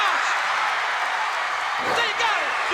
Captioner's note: crowd cheering